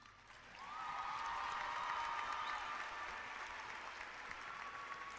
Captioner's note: clapping and cheering